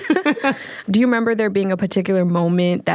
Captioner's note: both laughing